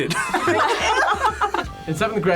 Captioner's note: group laughs